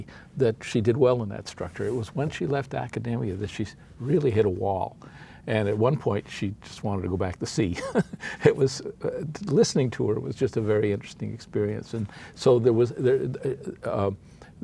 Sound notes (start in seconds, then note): 7.8 chuckles